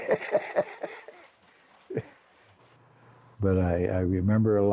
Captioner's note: laughs